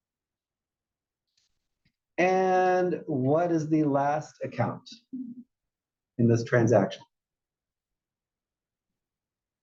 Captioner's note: cough